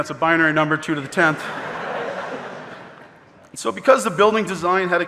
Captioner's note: audience laughing